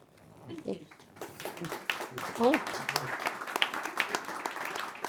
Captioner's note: audience applauding